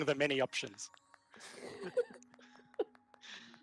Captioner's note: laughing